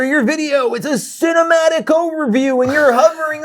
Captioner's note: guy laughs